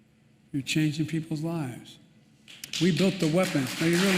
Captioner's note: applause